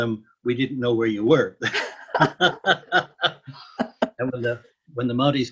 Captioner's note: laughter